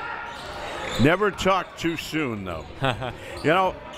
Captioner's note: laughing